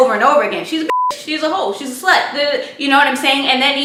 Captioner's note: beep